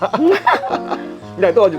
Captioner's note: both laughing